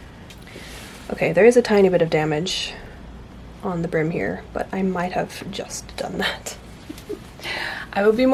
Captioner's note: rueful laughter